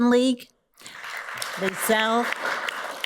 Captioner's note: audience applauds